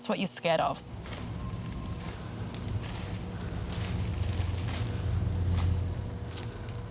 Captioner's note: power lines humming; suspenseful music